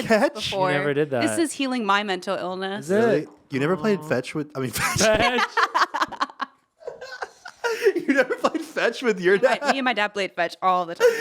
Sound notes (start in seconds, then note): 4.7 all laughing